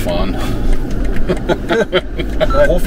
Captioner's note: laughing